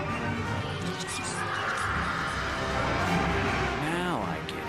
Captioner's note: yet more spooky female laughter